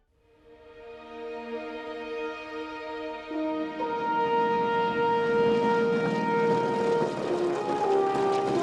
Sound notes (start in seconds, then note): 0.6 triumphant music; 4.9 plane droning